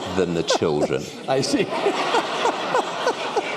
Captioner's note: laughter